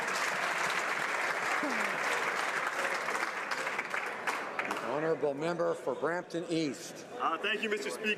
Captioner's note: applause